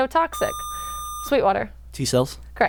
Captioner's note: buzzer